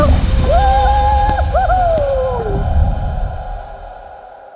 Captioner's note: scream